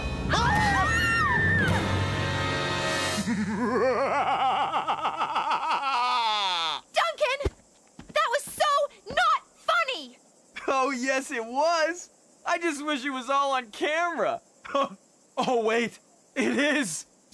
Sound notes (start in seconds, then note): 3.1 Duncan making a evil Laugh